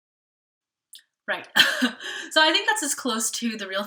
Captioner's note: chuckles